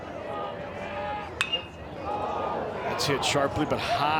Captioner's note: bat dings